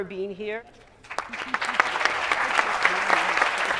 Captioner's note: applause